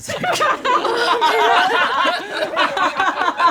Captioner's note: all laugh